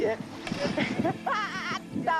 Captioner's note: ženský smích